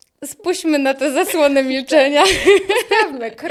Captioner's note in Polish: śmiech